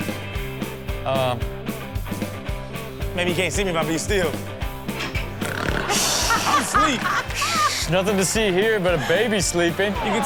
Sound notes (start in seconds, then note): 5.4 rob snores; 7.5 everyone laughs